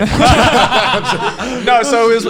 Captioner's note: laughing